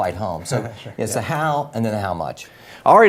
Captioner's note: laugh